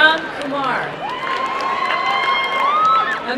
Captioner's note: applause and cheering